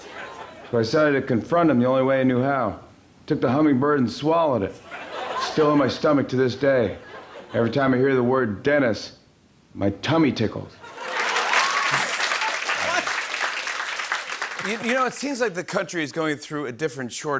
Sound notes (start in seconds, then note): 10.9 cheering and applause